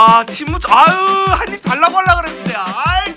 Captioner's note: slurp